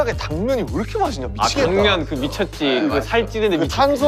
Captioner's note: mouth waters